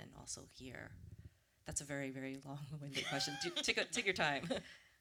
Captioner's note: laughter